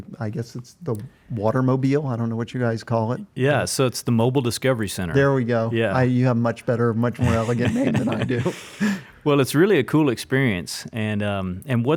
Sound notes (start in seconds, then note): 7.2 laughs